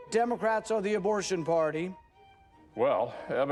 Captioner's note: none